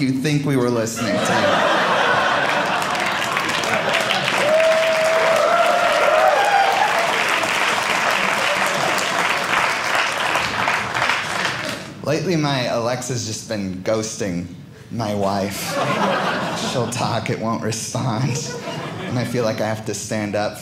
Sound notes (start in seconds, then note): 1.0 audience laughing; 3.4 audience applauding